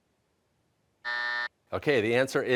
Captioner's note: buzzer